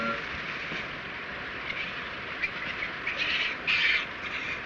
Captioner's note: monkey chittering